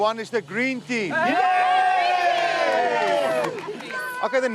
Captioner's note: crowd cheers